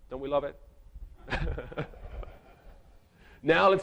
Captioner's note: chuckles